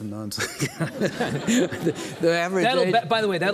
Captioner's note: laughing; audience laughing